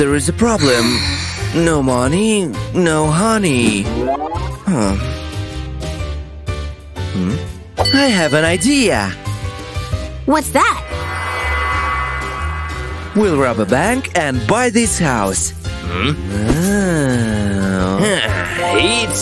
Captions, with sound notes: But there's a problem. No money - no honey. *deep sigh* I have an idea! What's that?! We'll rob a bank - and buy this house!